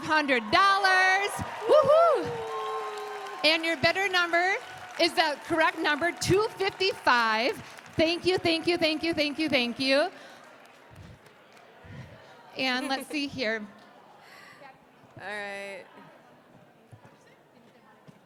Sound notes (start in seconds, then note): 0.7 applause